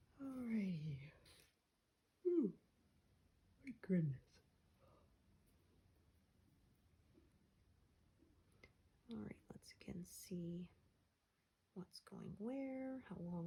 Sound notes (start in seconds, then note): 2.2 yawns